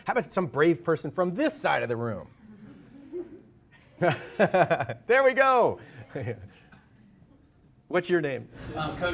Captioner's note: laughter